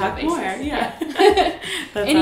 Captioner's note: laughs